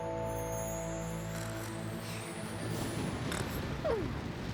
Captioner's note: snoring